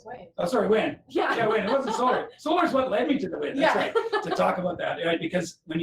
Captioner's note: laughter